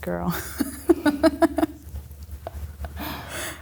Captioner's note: laughing